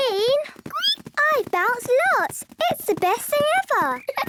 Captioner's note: squeaks; giggles